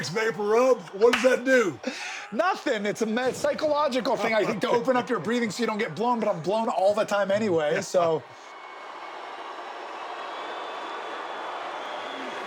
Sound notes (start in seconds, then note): 9.1 audience cheers